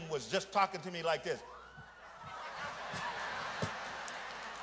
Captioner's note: audience laughs